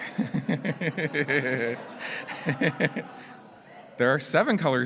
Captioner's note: laughs